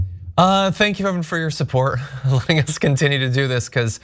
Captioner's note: laugh